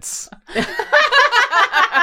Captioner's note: laughter